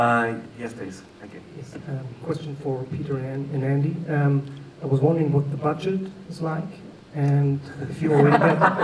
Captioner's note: laughter